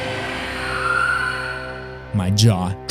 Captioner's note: clown screech